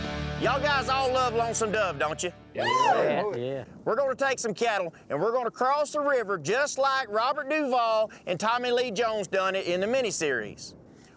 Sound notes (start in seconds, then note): 2.5 cowboys cheering, agreeing